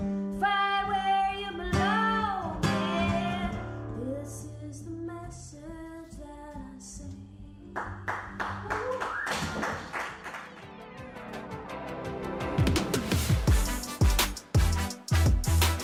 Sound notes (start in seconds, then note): 7.8 audience clapping; 9.8 energetic guitar music